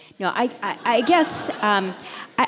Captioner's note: audience laughs